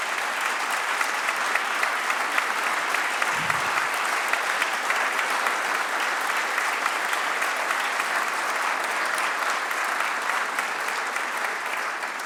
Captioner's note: applause